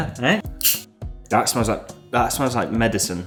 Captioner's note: carbonation hisses